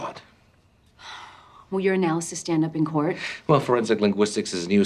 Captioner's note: sighs